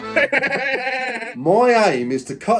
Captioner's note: playful music; manic laughing